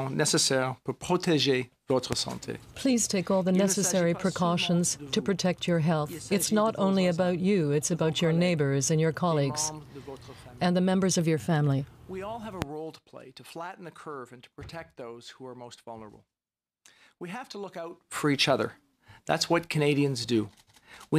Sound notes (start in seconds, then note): 2.1 speaking french